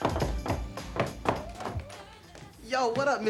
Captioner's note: door knocking